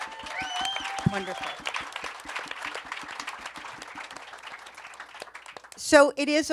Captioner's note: audience cheers and applauds